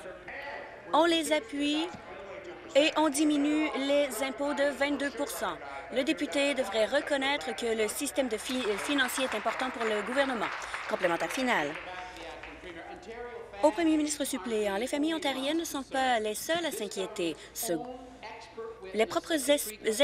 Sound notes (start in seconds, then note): 13.3 applause